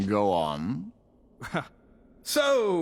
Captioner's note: laughs